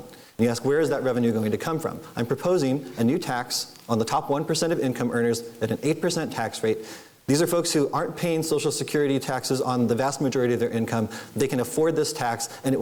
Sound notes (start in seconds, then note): none